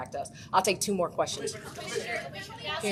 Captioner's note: overlapping chatter